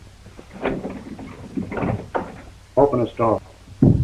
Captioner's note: doorknob rattles